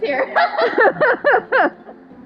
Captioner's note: laughter